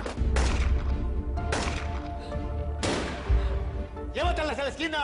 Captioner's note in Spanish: Disparos